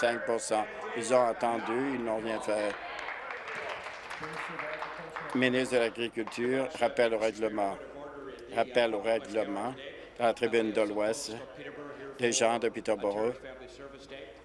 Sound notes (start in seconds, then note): 6.8 applause